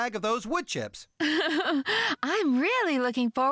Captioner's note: chuckling